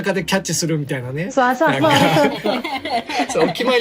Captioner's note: laughs